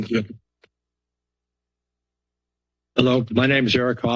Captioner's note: silence